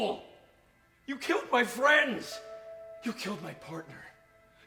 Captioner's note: verge of tears